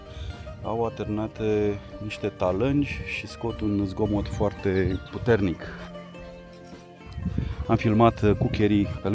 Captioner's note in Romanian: clopote